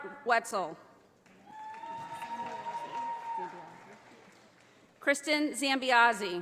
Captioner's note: audience applauding